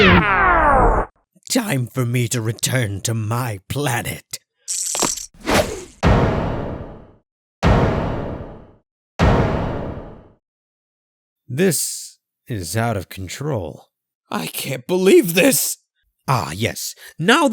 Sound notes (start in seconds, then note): 4.7 ziiiip; 5.4 whoosh